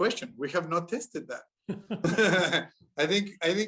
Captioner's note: laughter